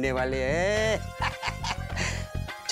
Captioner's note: laughing